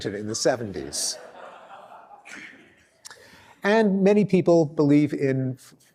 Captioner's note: laughter